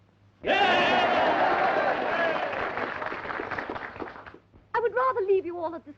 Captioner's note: cheering and applause